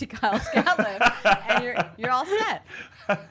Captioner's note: laughs